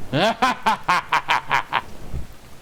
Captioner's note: laughter